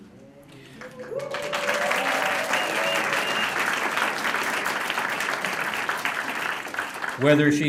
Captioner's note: applause